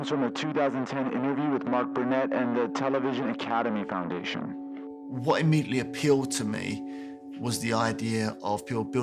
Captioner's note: soundbite of archived recording